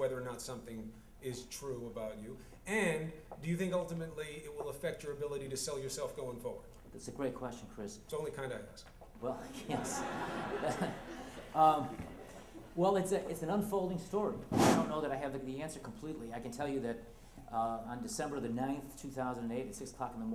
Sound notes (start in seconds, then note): 9.4 laughter